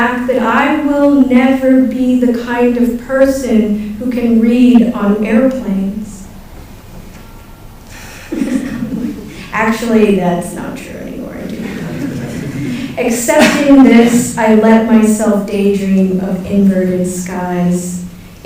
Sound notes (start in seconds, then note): 7.6 laughs; 11.5 laughter